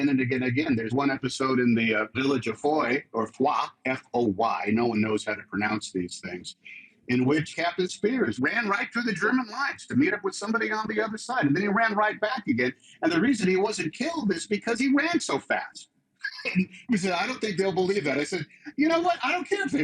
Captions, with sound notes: There's one episode in the village of Foy or "Fwa." F-o-y. No one knows how to pronounce these things. In which, Captain Speirs ran right through the German lines to meet up somebody on the other side. And then he ran right back again. And the reason he wasn't killed is because he ran so fast. (CHUCKLES) And they said, "I don't think they'll believe that." I said, "You know what, I don't care if they believe it,